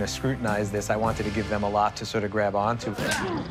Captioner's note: grunting